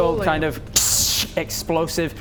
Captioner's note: pssssht!